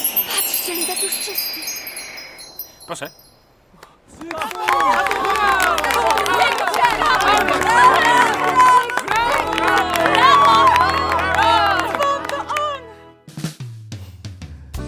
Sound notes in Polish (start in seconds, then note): 3.8 okrzyki, brawa